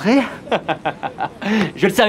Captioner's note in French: rires